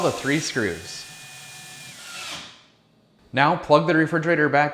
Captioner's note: power drill whirring